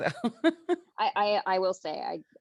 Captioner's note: chuckles